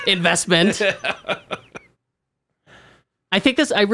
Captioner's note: laughs